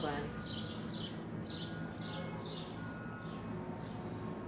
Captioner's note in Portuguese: pássaros cantando com som da cidade ao fundo